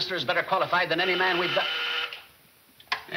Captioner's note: intercom buzzing